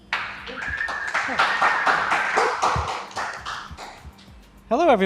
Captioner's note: audience clapping